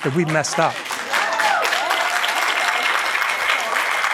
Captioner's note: applause